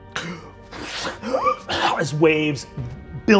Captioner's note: gasping for air